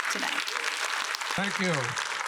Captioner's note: applause